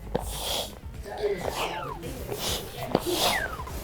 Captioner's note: mat whooshing